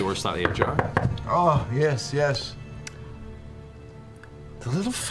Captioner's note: Taliesin knocks